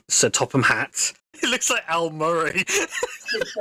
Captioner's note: laughs